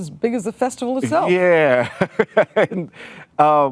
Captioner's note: laughing